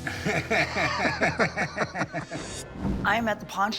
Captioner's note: laughter